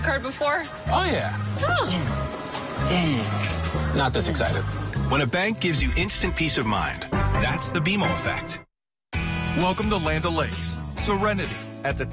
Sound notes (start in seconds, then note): 2.8 grunting